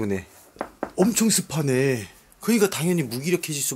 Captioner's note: knocking the wall